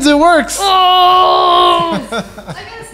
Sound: laughs

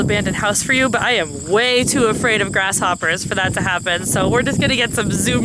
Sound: grasshoppers chirping

